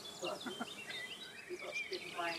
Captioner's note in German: Vogelgezwitscher